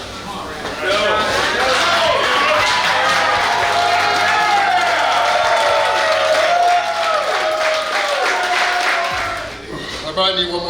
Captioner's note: cheering & Clapping